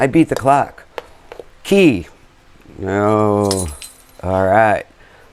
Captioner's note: bells ringing